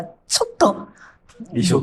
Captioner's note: laughs